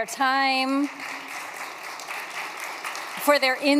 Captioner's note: applause